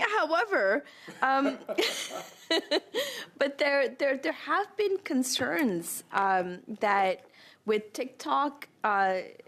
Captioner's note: laughter